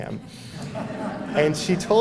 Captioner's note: laughter